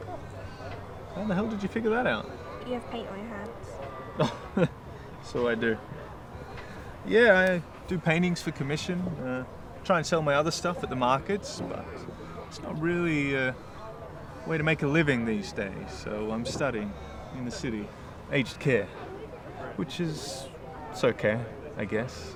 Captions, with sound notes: - How the hell did you figure that out? - You have paint on your hands. (laughing) - So I do. Yeah, I do paintings for commission. Try and sell my other stuff at the markets but it's not really a way to make a living these days so I'm studying in the city, aged care which is, it's okay, I guess.